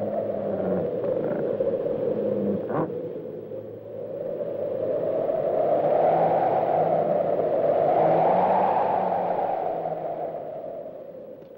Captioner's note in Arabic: تهب الرياح